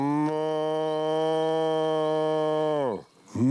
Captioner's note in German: lautes Muhen